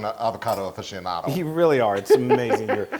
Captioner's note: laugh